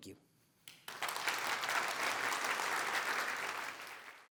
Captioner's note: applause